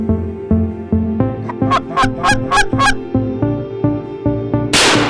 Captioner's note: calling a turkey; loud crack! of the rifle shot